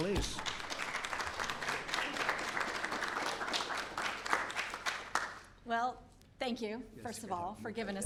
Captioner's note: applause